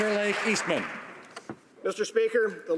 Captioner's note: applause